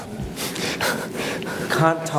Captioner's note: chuckles